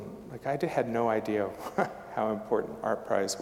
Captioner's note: chuckling